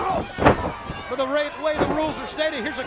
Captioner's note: crowd chatter